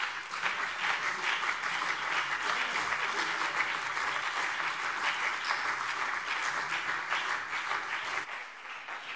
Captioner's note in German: Beifall CDU und BÜNDNIS 90/DIE GRÜNEN